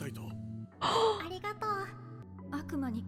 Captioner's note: gasp